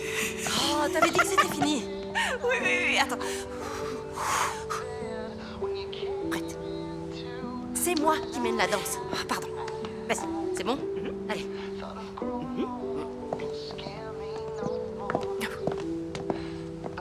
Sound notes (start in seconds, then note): 0.0 laughing; 3.2 sighing